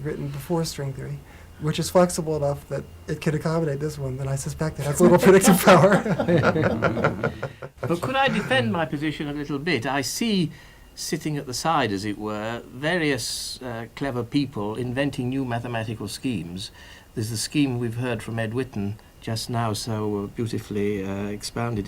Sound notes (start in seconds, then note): 4.9 laugh